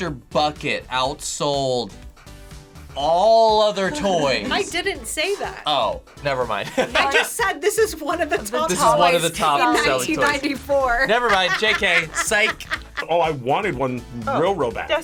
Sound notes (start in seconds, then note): 6.6 laughs; 12.4 laughs